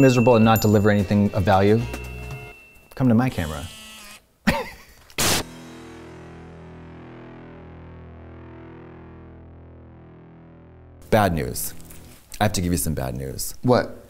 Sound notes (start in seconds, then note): 3.6 camera whirs; 5.6 laughs